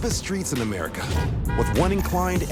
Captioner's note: car honking